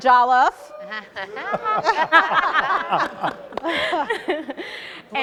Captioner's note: panelists laughing